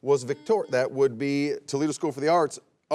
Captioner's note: buzzer beeps